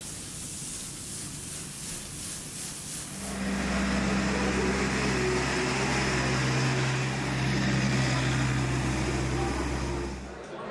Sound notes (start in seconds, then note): 0.5 water splashing; 3.1 engine purring